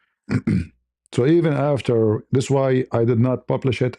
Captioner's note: berdehem